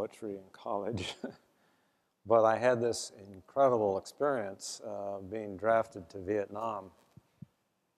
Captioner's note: laugh